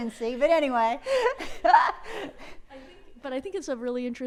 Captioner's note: laughs